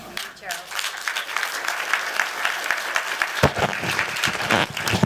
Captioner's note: applause